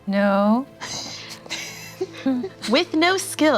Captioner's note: laughing